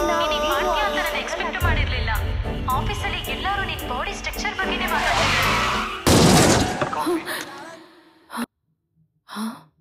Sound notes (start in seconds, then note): 4.9 tires screech, thud; 8.2 gasps